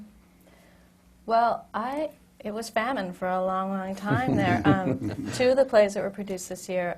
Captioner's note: laughs